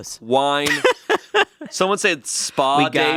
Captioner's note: laughs